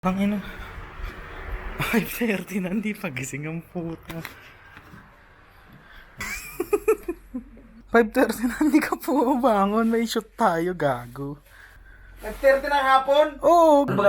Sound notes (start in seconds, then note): 6.2 laughs